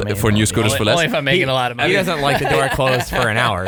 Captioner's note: laughs